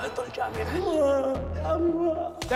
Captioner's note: moaning